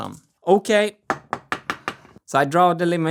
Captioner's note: tap x5